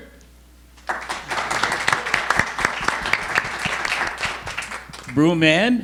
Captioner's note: audience applauding